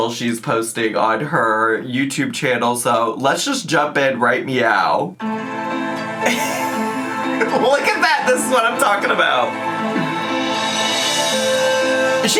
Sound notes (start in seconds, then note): 5.2 gentle music; 6.2 laughs